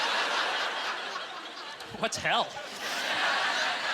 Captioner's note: audience laughter